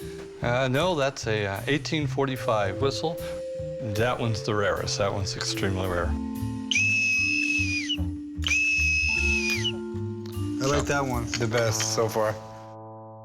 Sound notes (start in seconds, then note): 6.6 whistle blows